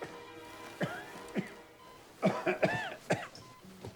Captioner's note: Randolph coughing